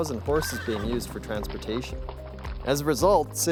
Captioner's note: horse whinnying